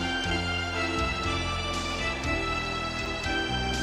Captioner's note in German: beifall